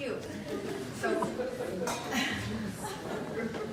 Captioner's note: laughter